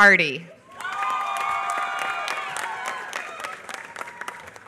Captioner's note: applause